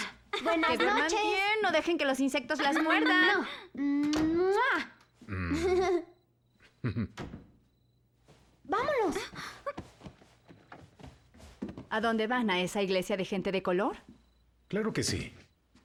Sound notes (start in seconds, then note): 2.4 giggling, kissing; 6.7 laughs